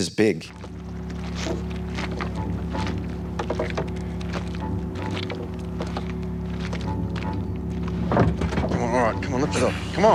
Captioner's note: footsteps